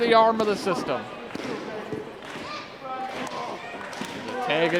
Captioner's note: crowd clapping